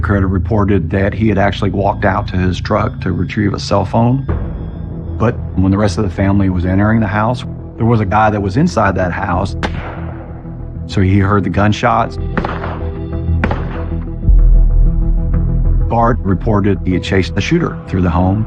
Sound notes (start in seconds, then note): 9.6 gunshshotot; 12.3 gunshshotots